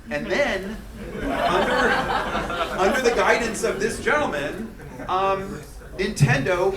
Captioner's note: crowd murmuring; students laughing